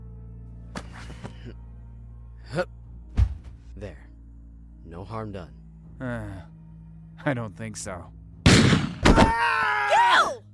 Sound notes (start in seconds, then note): 8.4 gunshot; 9.0 screams